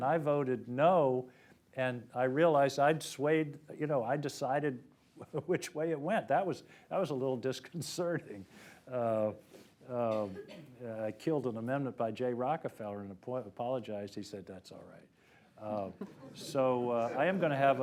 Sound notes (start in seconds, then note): 15.9 laughter